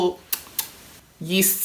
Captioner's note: kissing